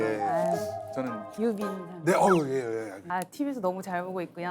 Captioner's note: surprised